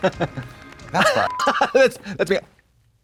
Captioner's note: Katya smirtles; beep